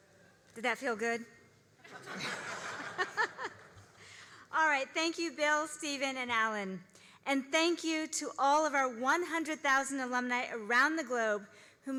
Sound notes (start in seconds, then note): 1.8 all laughing